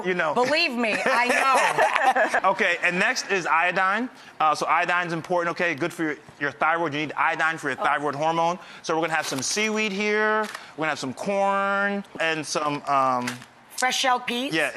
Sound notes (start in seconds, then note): 0.9 laughs